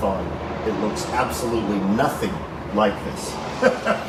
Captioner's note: laughs